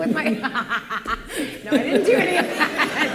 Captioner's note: laughter